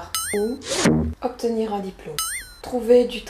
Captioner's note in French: ding